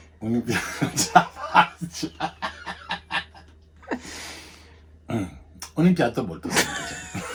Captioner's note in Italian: risate incontrollabili